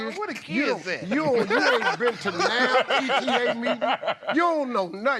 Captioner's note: laughter